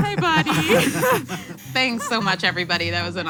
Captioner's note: laughs